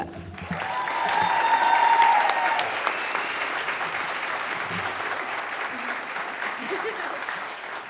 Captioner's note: applause